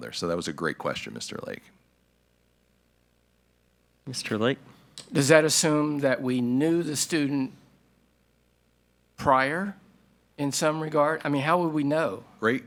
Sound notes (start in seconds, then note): none